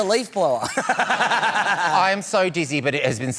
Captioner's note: laughs